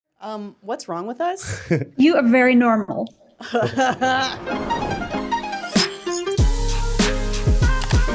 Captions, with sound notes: - Um, what's wrong with us? - You are very normal. (laughing) (upbeat music)